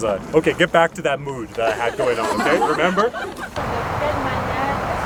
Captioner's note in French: rires